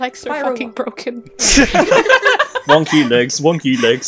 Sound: laughter

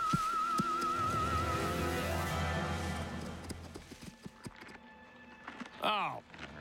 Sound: rustling; footsteps

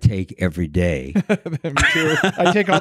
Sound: laughing

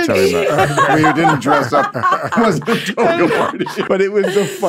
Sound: laughs

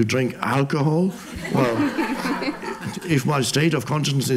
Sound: audience laughs

